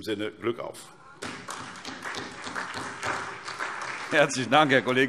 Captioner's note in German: Beifall SPD